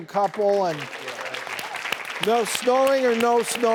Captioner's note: applause